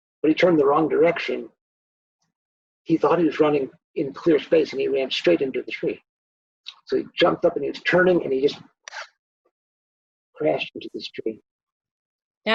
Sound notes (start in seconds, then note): 9.6 slaps hands